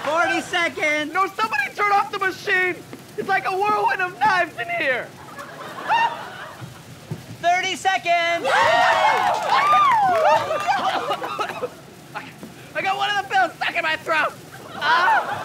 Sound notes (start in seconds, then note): 8.3 cheering; 8.4 scream; 10.2 coughing